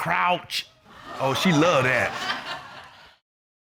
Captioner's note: audience exclaiming, laughing